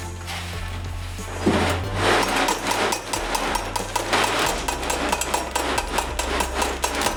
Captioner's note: metallic rolling and chopping with music